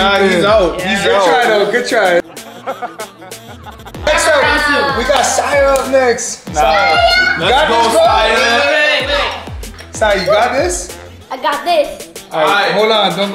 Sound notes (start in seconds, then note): 2.2 person laughing